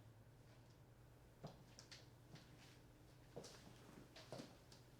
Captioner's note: man's footsteps